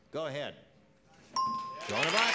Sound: ding; applause

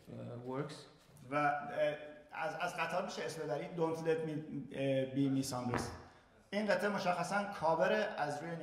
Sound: speaking in farsi

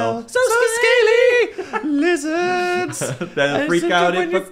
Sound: laughs

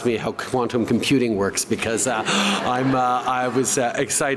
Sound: laughter

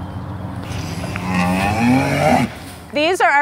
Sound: cows mooing

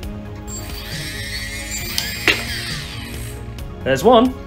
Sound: motors spinning

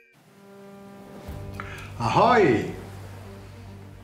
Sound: 🎵foghorn of a ship

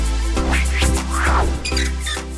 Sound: record scratching; sign creaking

